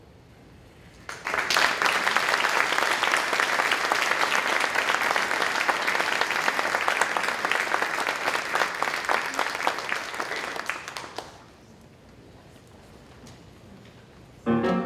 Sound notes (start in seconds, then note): 3.5 applause